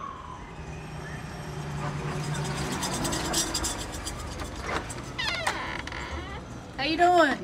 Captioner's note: sirens in background; doorbell rings and door creaks open